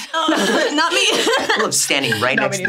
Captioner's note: laughs